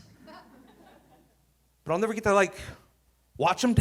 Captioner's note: audience laughing